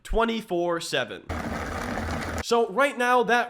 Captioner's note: rock tumbler whirring